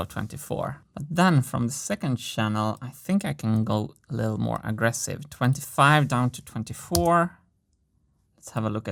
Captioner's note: keystroke